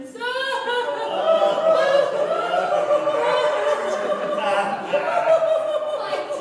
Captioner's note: they cry loudly